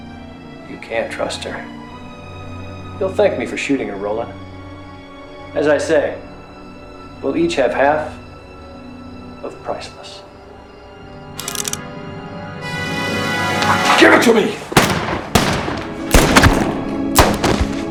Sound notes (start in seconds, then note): 11.4 hammer cocking; 13.1 dramatic music; 14.7 guns firing